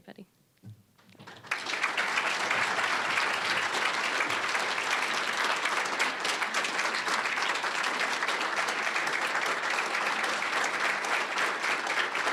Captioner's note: applause